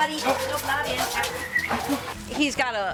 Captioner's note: whistling